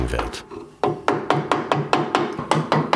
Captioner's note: hammering